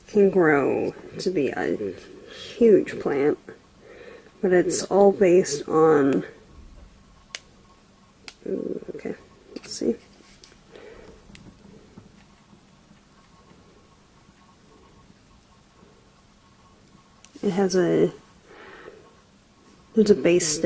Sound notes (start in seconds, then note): 7.2 pops of the plant coming off the sheet